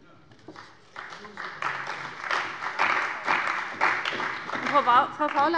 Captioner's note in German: Beifall bei Abgeordneten der CDU